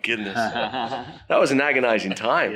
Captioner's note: laughs